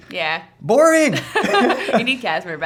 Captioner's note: laughs